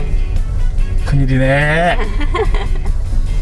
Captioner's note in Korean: 웃음